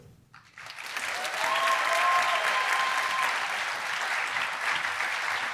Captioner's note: applause